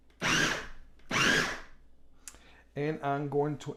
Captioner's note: machine buzzing